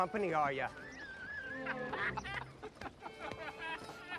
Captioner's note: men laugh